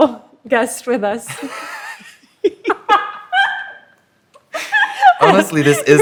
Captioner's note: laughter